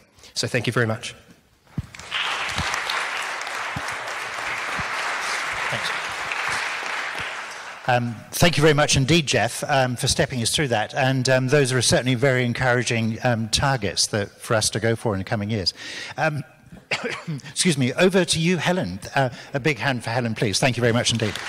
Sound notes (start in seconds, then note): 1.7 audience claps; 16.8 coughs; 20.7 audience claps